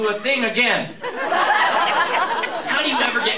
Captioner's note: laughter